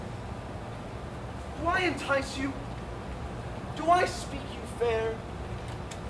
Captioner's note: none